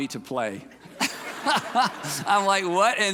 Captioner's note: audience laughing; person laughing